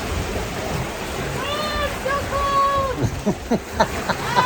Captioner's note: laughs